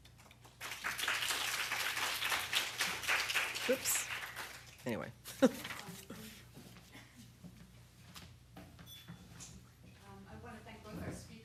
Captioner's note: applause